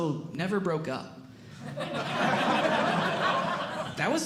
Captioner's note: audience Laughing